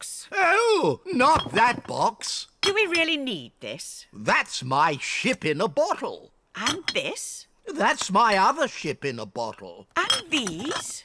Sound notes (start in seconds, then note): none